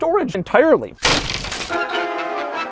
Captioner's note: sound of plastic breaking